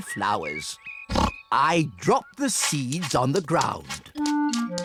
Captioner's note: oinks